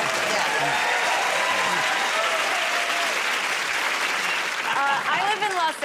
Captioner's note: cheers and applause